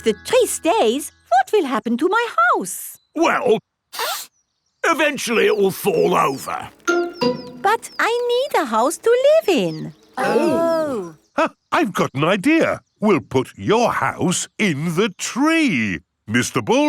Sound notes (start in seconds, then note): 3.9 sniffs; 10.1 gasps